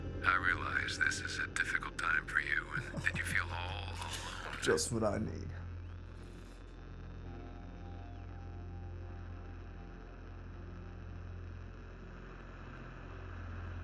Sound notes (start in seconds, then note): 2.5 Kenny laughs; 5.8 ominous music; 5.8 static buzzing